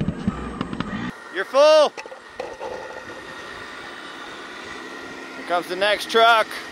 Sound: machine squeaks

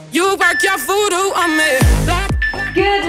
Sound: timer beeping

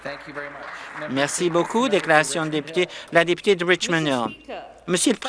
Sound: some Applause

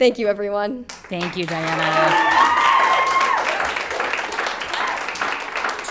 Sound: people cheering

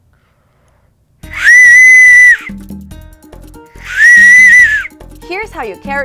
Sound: whistles loudly

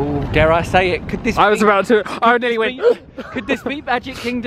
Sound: gasps

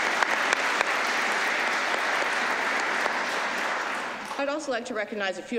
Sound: applause

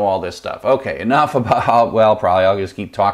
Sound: laughs

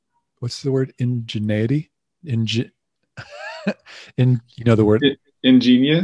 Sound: laughing

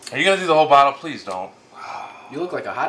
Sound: sighs

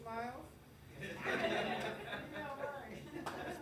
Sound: graduates mumbling; graduates laughing

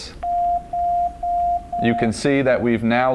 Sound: beeping

